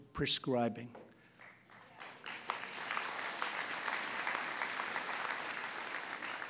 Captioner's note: applause